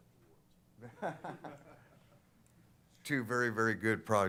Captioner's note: laughter